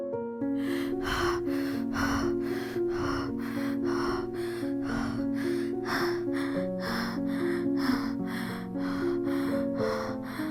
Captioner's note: heavy Breathing